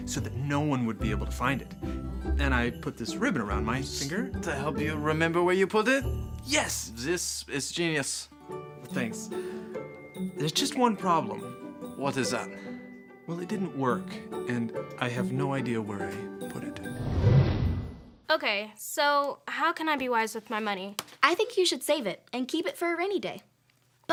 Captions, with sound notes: so that no one would be able to find it. And I put this ribbon around my finger- - To help you remember where you put it? - Yes. - This is genius. - Thanks. There's just one problem. - What is that? - Well it didn't work and I have no idea where I put it. (whooshing) (upbeat music ends) - Okay. So how can I be wise with my money? - I think you should save it and keep it for a rainy day.